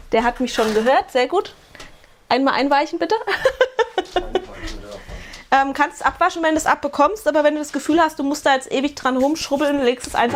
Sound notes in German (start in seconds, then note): 3.2 gelächter